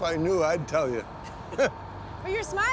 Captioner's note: laughs